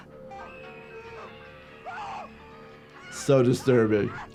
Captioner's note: people screaming